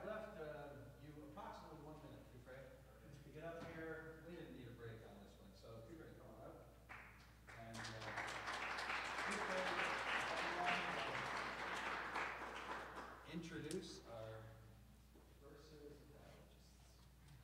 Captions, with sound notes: So, I have left you approximately one minute, Kufray, to get up here. We didn't need a break on this one. So, Kufray, come on up. (audience applauds) Introduce our first dialogist.